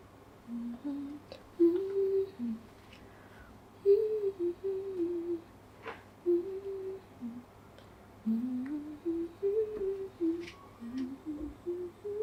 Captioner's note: humming the tunes in my head